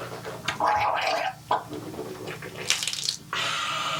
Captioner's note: liquid swooshes